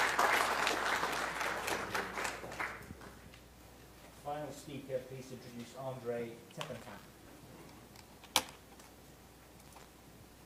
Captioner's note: applause